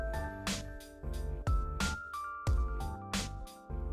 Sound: female snap

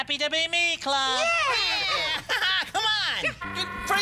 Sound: laughs

